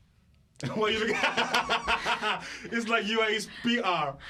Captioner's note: laughter